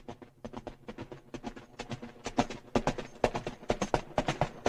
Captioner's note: hooves clacking